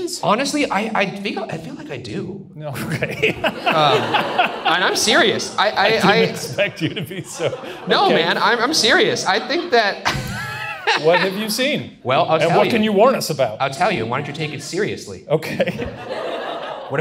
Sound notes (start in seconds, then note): 3.1 Shane and audience laugh; 10.0 Ryan laughs; 15.4 audience laughs